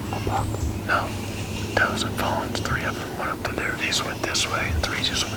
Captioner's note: whispering